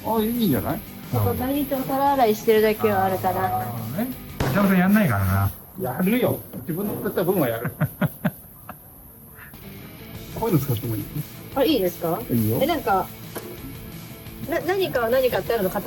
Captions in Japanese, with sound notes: あ、いいんじゃない? 毎日お皿洗いしてるだけはあるからな。 なるほどね。さんやんないからな。 やるよ。自分の作った分はやる。 [笑い] こういうの使ってもいい? あ、いいですか? え、なんか何かを何かってあるの?硬さがさ、全部違うじゃん。